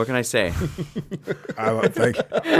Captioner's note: laughing